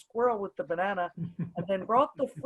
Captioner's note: chuckles